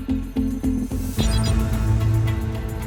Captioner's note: computer beeps